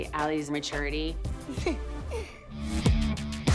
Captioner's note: giggles